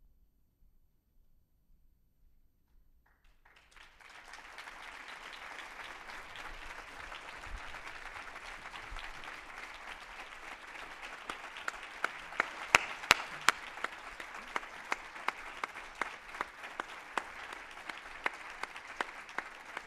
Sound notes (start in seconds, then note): 4.3 applause